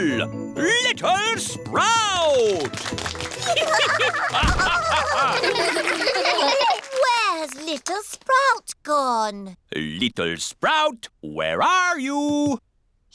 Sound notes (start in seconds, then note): 2.1 applause; 3.3 all giggling